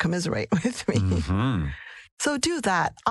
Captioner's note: laugh